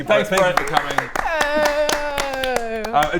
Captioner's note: applause